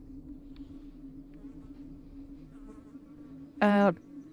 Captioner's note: eerie hollow sound